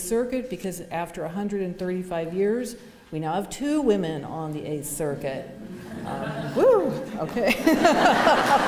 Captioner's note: laughter